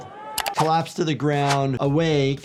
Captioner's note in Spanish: clics del ratón